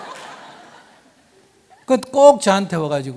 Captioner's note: audience laughs